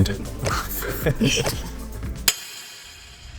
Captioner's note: laughing